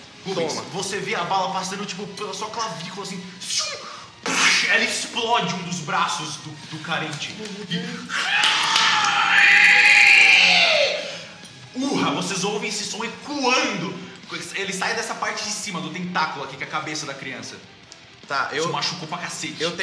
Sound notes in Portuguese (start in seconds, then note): 8.1 Grunhido de dor